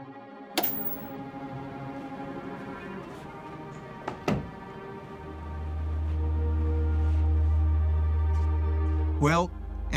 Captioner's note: light switch clicks